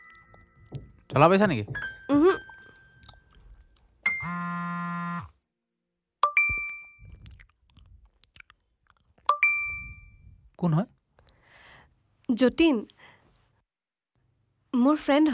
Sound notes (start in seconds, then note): 6.2 phone rings, text incoming; 9.3 multiple whatsapp texts